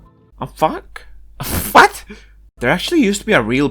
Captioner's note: pfft